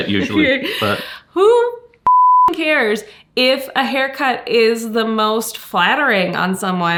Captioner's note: beep